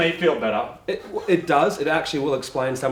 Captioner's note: laughing